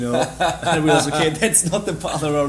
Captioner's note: laughs